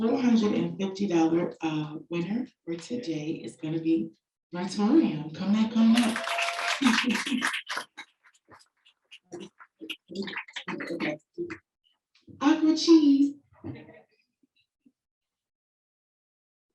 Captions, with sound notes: So, the $450 winner, who today is going to be Virtourium. Come now, come now. (audience applauding) I'll go cheese.